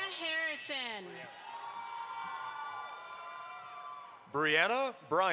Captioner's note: audience applauds